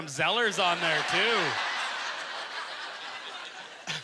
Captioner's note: audience laughter